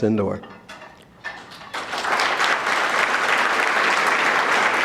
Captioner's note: audience clapping